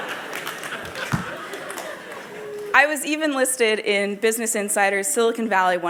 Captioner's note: laughter